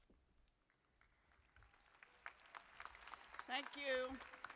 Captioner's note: applause